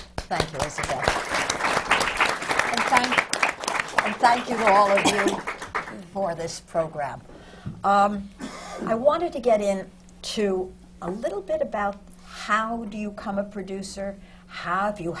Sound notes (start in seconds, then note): 0.0 applause